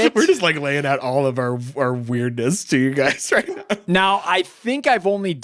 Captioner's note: laughs